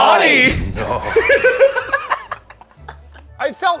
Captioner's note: laughs